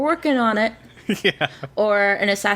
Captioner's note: laughs